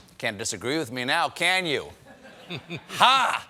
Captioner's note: laughter